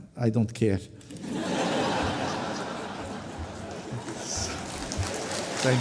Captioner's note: laughter, applause